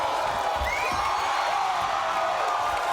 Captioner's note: applauding